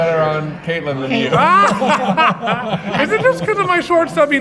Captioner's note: laughing